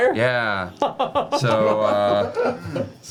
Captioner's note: laughs